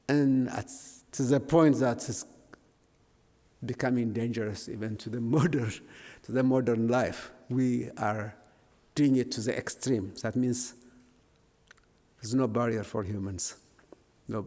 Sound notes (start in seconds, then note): none